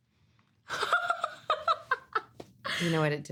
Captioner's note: laughing